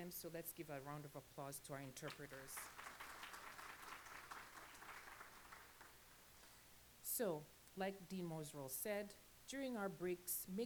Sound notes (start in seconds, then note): 2.0 applause